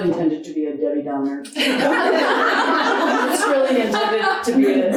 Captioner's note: audience laughing